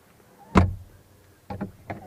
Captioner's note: door latching